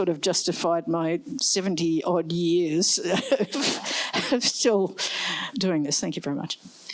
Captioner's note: laughs